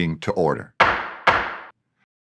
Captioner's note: knocking sounds